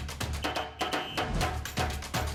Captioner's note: upbeat drums; whistle shrills